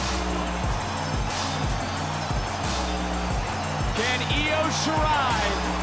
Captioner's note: audience cheering